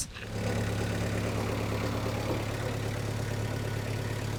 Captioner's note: engine rumbling